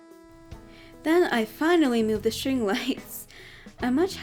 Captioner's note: chuckles